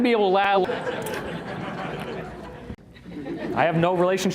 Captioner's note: uncomfortable laughter